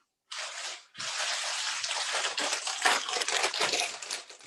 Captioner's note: package crinkling